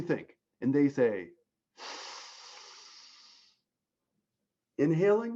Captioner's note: inhales